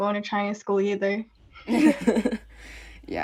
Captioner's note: laughs